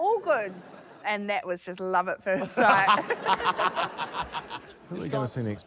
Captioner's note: laughter